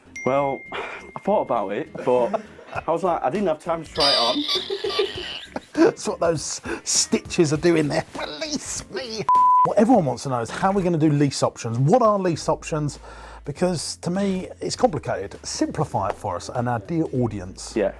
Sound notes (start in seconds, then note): 3.9 laughs; 9.3 beeping